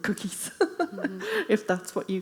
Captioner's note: laughing